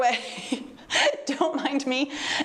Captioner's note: laughs